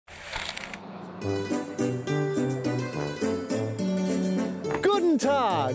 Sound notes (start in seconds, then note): 1.0 logo whooshing; 1.2 uptempo traditional music